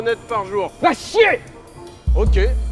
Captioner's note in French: hurlant